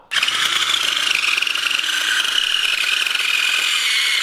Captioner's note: motor whirring